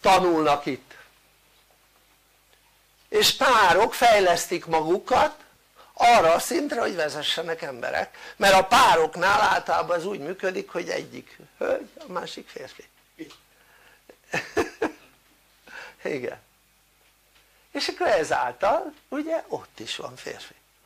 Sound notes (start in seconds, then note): 14.2 laughter